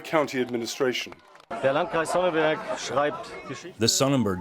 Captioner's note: through translator